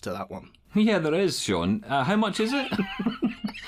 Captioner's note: laughter